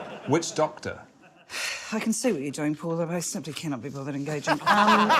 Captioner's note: sighs